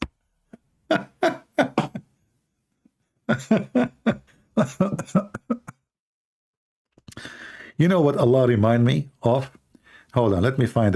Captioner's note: Ketawa